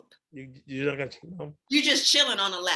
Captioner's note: speaks faintly